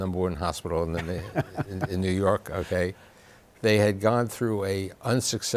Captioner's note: laughs